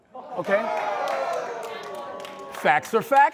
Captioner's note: crowd groaning